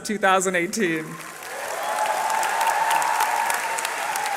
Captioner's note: cheering